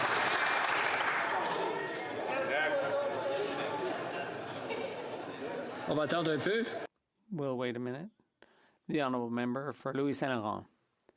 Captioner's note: some Applause